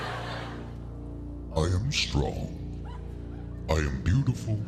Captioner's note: laughter; deep voice